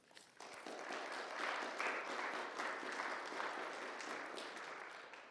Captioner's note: audience applauds